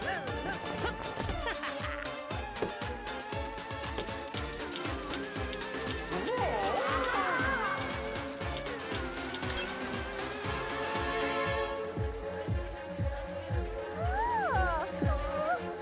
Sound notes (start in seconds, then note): 0.0 laughs; 6.2 groaning; 11.3 upbeat music; 14.0 whimpering